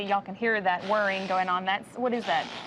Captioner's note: grasp Assist Device whirs